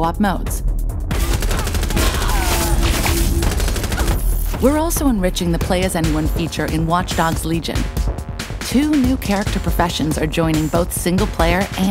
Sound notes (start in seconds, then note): 1.1 gun firing; 1.3 shrieks; 3.5 grunts